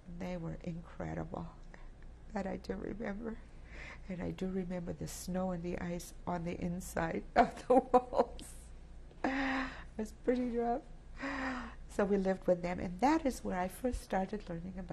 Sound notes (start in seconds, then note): 7.6 laughs